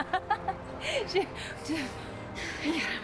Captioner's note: laughing